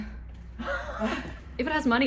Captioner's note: laughs